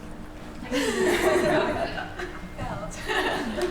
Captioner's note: laughter